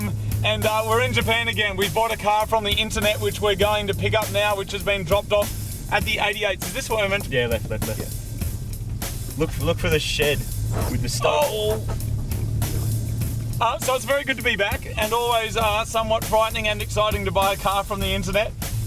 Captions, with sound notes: And we're in Japan, again. We bought a car from the internet which, which we're going to pick up now, which has being dropped off at the 88's. Look for- look for the shed. [car scrapping against the asphalt] Ow! Uh, so, it's very good to be back. And always, uh, somewhat frightening and exciting to buy a car from the Internet.